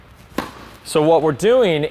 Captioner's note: ball thumps